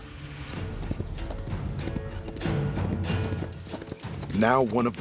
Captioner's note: galloping